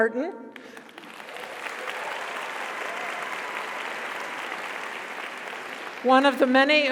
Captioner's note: audience applauds; audience cheers